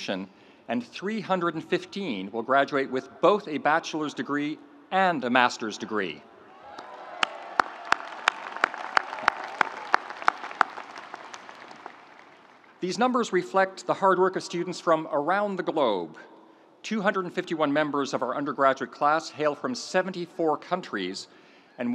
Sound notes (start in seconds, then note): 6.4 audience cheering; 6.6 audience applauding